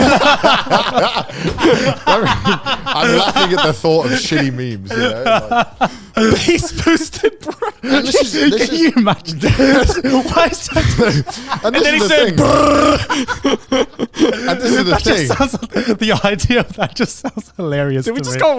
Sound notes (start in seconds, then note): 0.1 all laughing; 10.4 all laughing; 13.2 all laughing